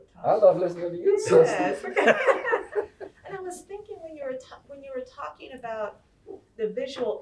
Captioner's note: laughter